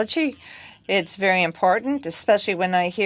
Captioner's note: speaking French